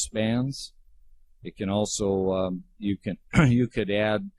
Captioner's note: clears throat